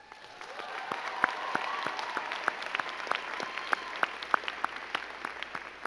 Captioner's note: crowd cheering and clapping